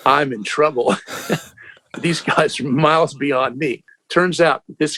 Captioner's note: laughter